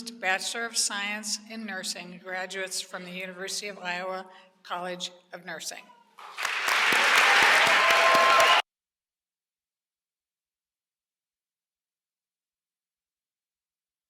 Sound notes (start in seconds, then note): 6.2 applause